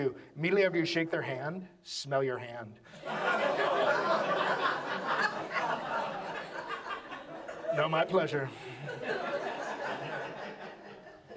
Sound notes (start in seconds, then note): 2.9 audience laughs